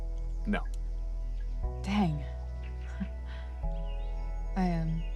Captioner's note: chuckle